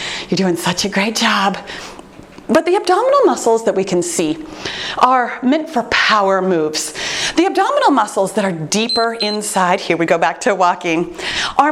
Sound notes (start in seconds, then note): 8.8 timer beeps